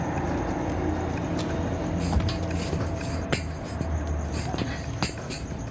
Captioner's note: rattling